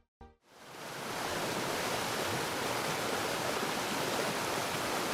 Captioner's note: water rushing